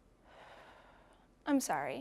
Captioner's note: sighing